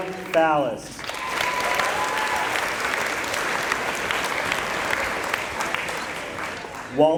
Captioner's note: applause